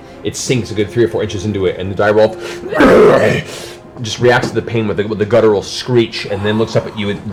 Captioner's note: rrgaaah